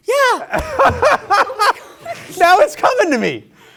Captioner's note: host laughing